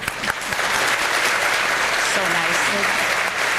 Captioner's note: audience applauding